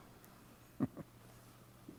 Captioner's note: Brom chuckles